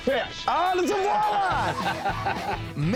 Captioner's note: laughing